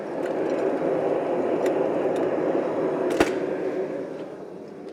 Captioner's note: louder blast from the furnace